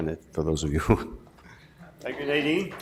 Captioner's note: laughs